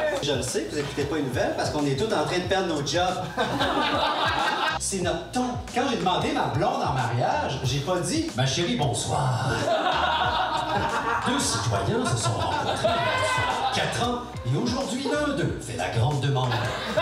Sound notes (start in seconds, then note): 3.2 laughs; 9.4 laughs